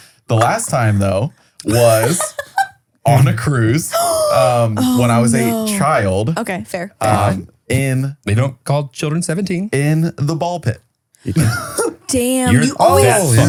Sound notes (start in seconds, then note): 3.9 gasps; 11.2 laughs